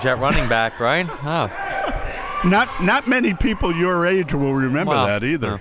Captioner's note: laughs